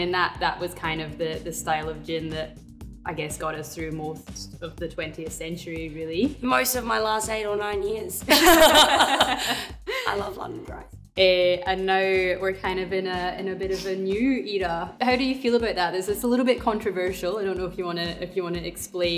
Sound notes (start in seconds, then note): 8.3 laughs